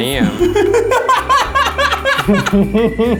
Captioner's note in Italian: risate